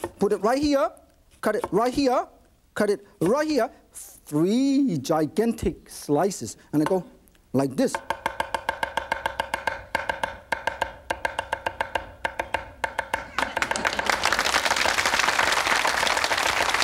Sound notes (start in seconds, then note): 7.8 rhythmic knife chopping; 13.3 audience clapping